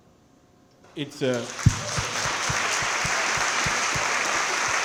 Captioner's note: crowd clapping